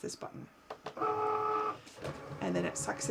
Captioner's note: Cricut whirs